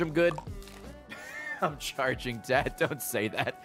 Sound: laughs

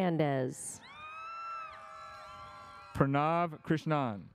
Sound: audience cheers

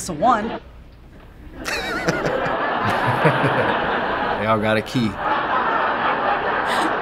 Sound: chuckles

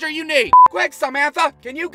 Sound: beep!

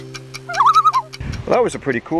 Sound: loon call

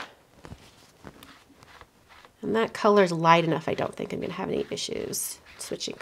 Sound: none

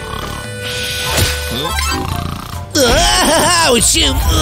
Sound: snoring

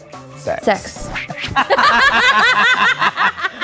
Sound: both laugh

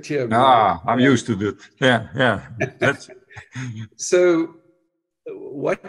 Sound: laughs

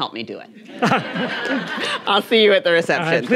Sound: audience laughing

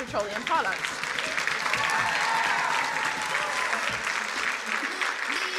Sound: crowd cheering and applauding

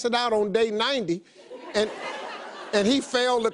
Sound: audience laughs

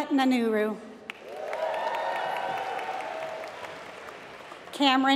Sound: applause

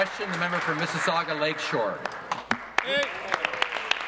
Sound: applause

